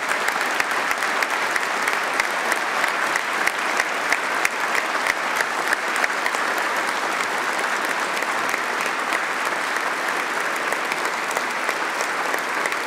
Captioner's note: applause